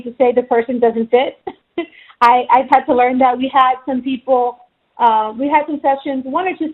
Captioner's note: chuckles